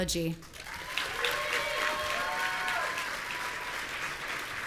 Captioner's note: audience cheering